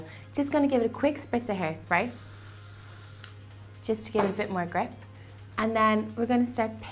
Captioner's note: spraying